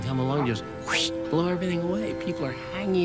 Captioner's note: imitates whooshing